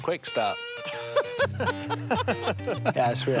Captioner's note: laughter